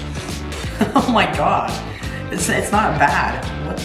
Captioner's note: laughs